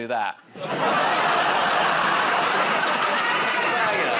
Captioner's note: laughter